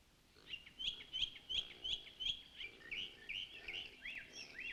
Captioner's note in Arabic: تغريد الطيور